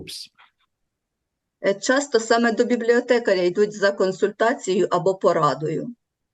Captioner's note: foreign Language